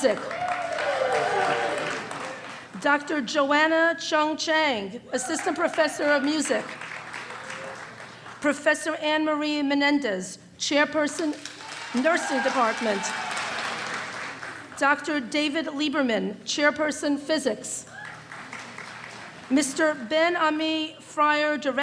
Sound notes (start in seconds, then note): 0.1 applause and cheering; 7.1 applause; 12.9 applause and cheering